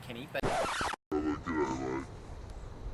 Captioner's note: record needle scratching